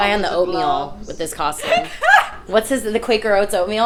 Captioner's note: laughing